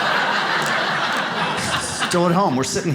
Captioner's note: audience laughs